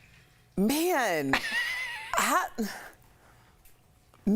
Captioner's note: laughter